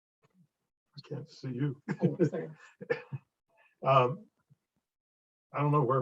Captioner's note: chuckles